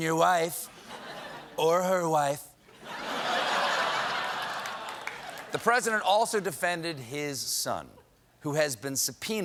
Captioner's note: laughter